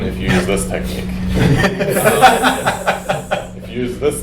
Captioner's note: laughs